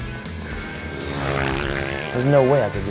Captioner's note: engine whizzing